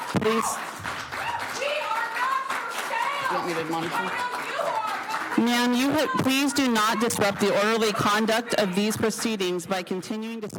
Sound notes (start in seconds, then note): 6.3 applause